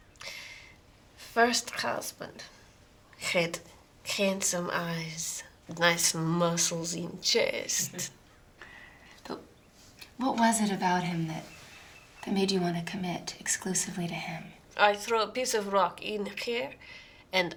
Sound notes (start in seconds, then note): 8.1 laughing